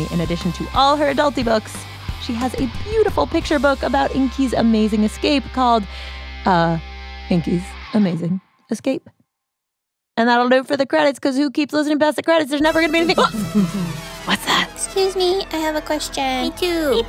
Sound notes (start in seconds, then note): 12.6 an interrupting horn plays!; 14.7 Vwoom vwoom vwoom: It’s the sound of the Badgers approaching!; 16.3 A different voice